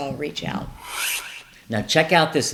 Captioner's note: whooshing